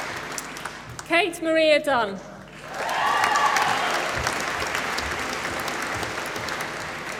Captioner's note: applause